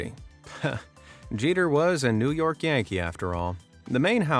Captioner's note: chuckles